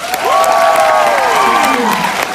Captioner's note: warm applause